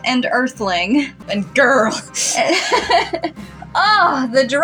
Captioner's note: laugh